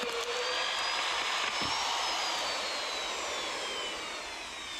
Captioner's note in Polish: Aplauz